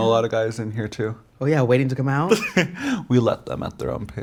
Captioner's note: chuckles